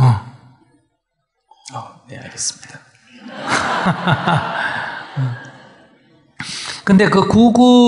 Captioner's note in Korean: 청중 / 스님 웃음